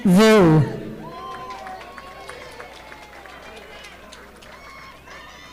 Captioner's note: audience applauding